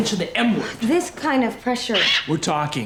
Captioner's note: kitty squawks